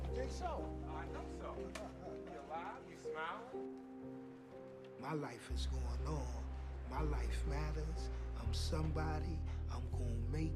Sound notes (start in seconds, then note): 2.0 laughs